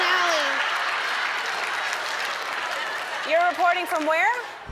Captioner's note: crowd laughing and applauding